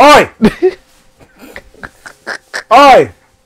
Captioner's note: laughing